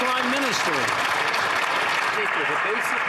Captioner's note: some Applause